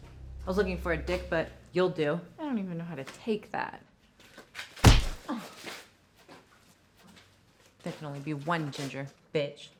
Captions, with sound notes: - I was looking for a dick but you'll do. - I don't even know how to take that. (skin smacking) - There can only be one Ginger, bitch.